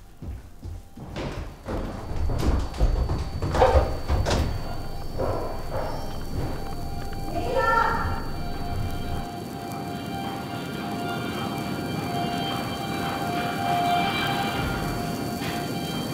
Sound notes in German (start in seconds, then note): 3.1 anhaltendes Piepen; 9.2 feuerartiges Prasseln; 12.6 hallende Schritte im Hintergrund